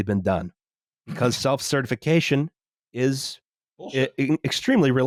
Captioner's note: snorts